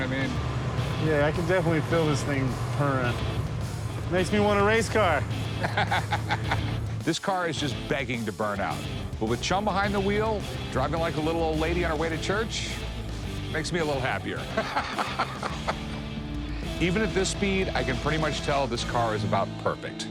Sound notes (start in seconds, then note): 5.3 laughs; 14.4 laughs